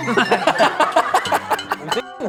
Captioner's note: laughing